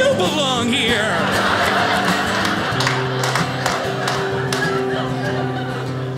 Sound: audience laughing

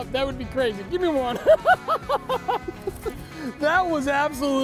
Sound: laughs

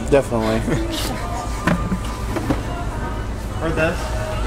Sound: laughs

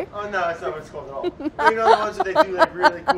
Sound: laughs; laughing

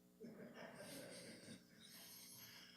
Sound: laughter

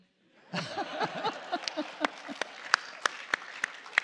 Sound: laughter and applause

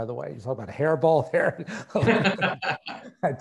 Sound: laughing

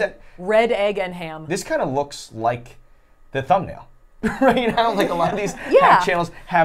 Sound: laughs

